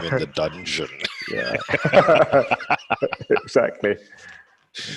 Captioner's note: laughing